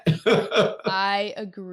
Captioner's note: laughing